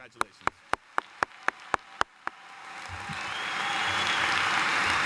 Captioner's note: cheering and applause